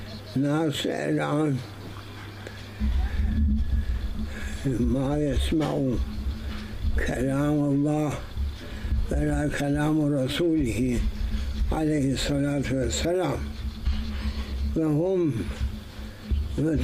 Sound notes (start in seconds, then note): 12.6 saws